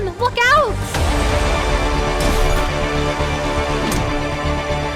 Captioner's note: dramatic music; gunshot blasting